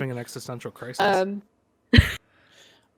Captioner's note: chuckles